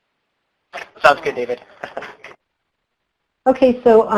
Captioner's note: laughs